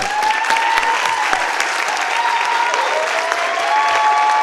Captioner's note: participants applaud